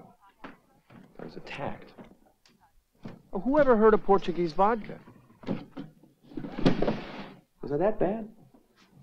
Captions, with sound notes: I was attacked. Whoever heard of Portuguese vodka? (drawer softly clattering) Was I that bad?